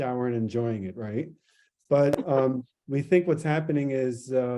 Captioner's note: laughter